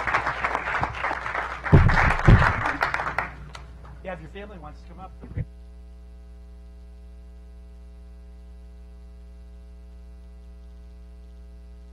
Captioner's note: clapping